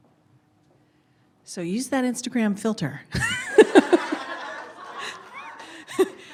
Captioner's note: laughs